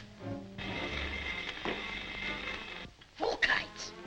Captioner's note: Volkite steps; electricity hums